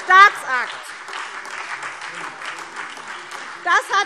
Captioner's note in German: Demonstrativer Beifall SPD